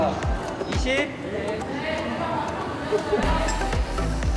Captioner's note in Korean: 웃음이 터져버린